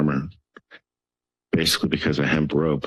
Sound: pause

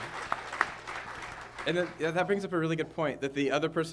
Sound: applause

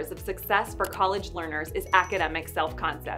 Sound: mouse clicking; bell ringing

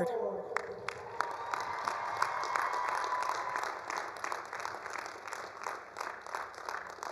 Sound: attendees applauding; attendees cheering

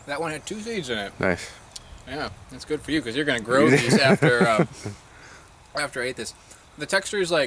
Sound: laughs

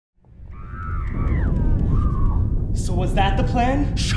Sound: woman screaming

